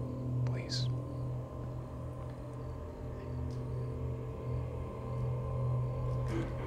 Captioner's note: crickets chirping; tense music